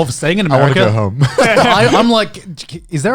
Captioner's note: chuckling